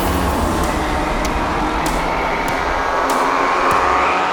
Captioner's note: engine revving